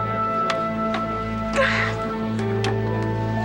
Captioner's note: sobs